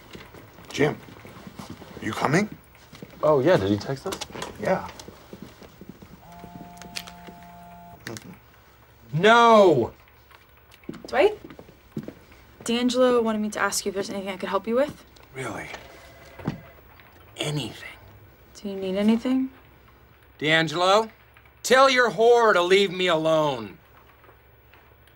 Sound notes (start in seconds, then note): 6.2 cellphone buzzing